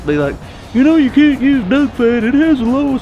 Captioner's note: mocking